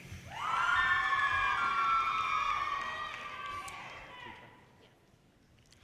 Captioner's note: audience cheers and applause